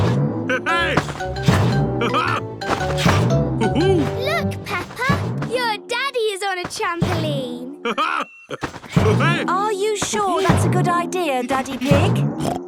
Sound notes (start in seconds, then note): 1.7 laughs; 7.8 laughs